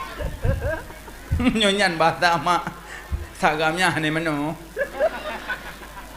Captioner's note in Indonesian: tertawa